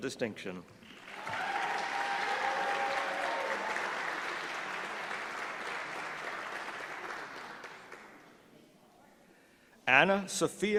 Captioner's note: applause